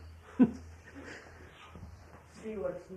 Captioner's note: laughs